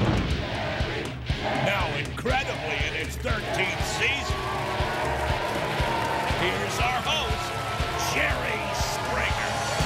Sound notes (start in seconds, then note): 4.6 audience cheering